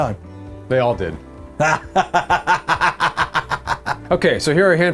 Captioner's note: laughs